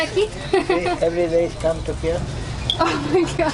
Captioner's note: laughter